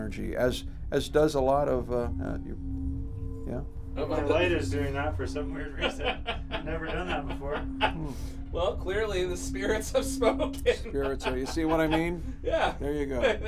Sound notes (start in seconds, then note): 5.6 man laughing; 9.7 laughs